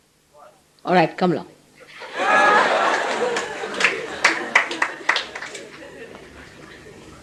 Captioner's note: laughter